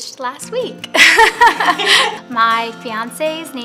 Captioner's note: laughing